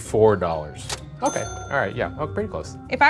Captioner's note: price dings